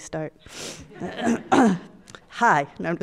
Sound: audience laughs

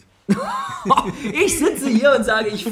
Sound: laughs

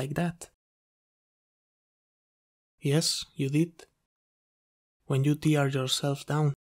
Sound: pause

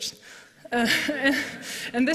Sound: laughter

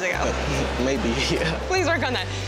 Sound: laughs

